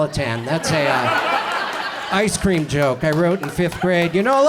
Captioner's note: audience laughs